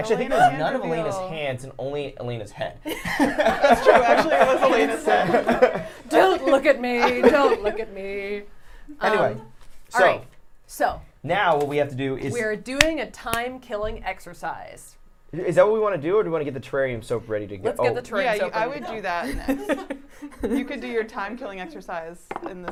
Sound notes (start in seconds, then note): 2.9 everyone laughs; 19.2 laugh